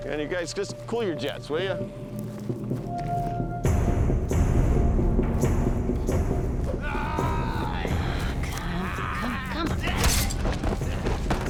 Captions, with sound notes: - You guys, just cool your jets, will ya? [tense music] [groaning] - Come on. Come on.